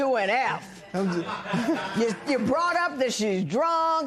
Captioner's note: laughter